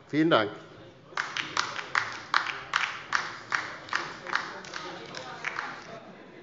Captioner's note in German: Beifall bei der LINKEN